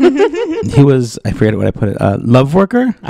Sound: laugh

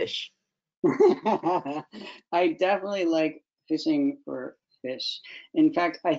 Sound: laughs

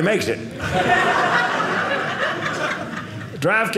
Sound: audience laughing

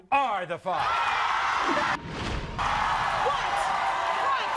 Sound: audience screaming

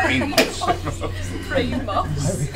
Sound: all laugh

